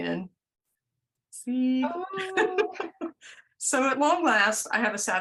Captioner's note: laughter